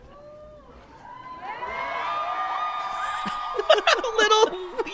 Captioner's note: crowd cheers